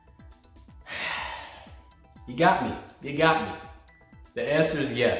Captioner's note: exhales sharply